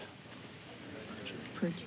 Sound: whispering

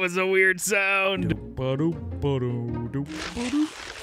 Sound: humming

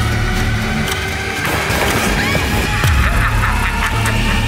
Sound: explosions

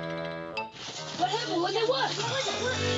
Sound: tent rustling

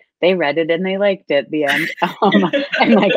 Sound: laughs

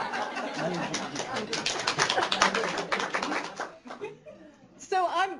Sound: applause

